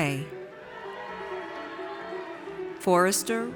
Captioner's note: audience cheers